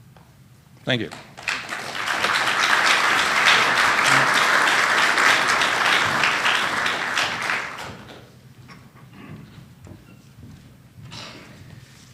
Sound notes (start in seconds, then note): 1.0 applause